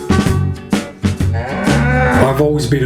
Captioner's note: cow moos